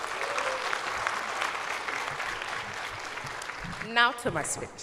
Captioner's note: cheers and applause